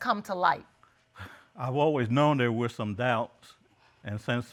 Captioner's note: sighs